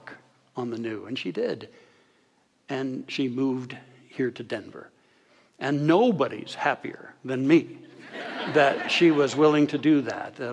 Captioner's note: audience laughter